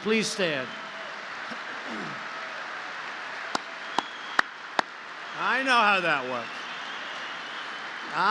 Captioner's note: applause